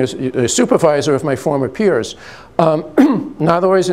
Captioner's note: clears throat